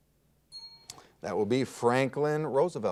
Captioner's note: bell rings